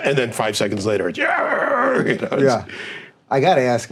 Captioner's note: growling